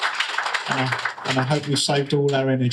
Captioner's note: applause